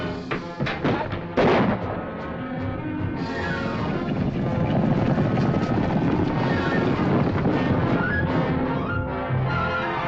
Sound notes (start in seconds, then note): 0.4 gunshots; 3.6 tense music